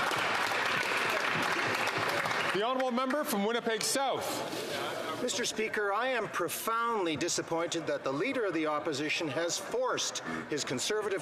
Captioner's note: applause